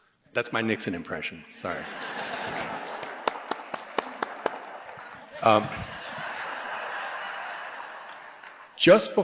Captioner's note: laughter